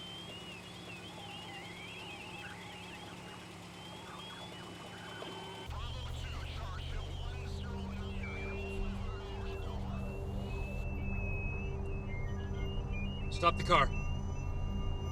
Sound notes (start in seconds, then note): 9.9 whistle; 11.9 alarm